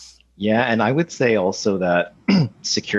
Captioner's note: clears throat